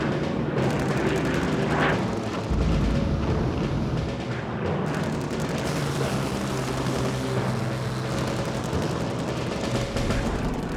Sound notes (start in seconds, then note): 4.9 fire roaring; 6.3 plane engine roaring